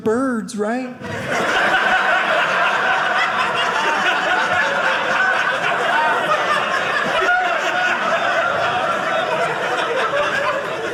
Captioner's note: audience laughing